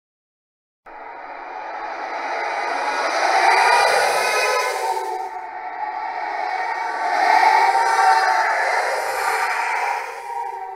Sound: sound of haunt

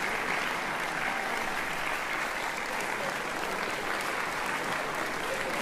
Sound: cheers and applause

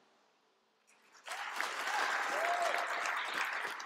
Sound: applause

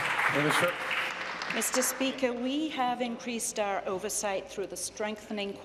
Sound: applause

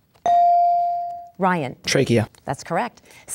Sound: dinging

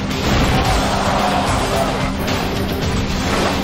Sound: spectators groan

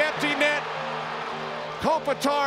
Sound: crowd cheering

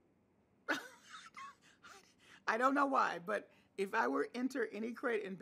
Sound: laughing

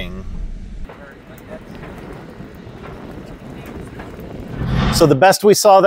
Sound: wind blowing

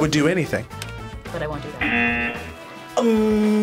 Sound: buzzer

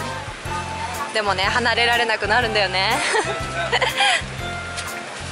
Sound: 苦笑

